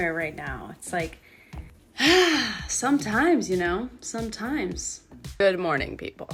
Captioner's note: sigh